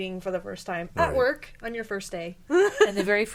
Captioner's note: laughing